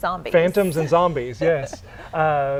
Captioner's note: chuckle